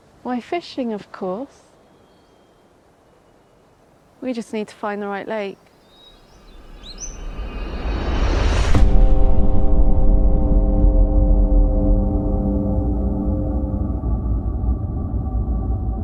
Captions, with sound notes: - Why, fishing, of course. We just need to find the right lake. (haunting music) (electricity buzzing)